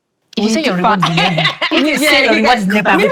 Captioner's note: laughing